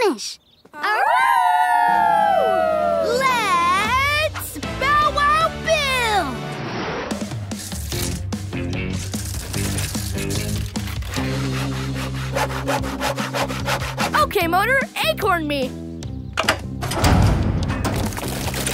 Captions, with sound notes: That'll keep the squirrel busy while we finish. [howling] Let's... bow wow build! Okay Motor, acorn me.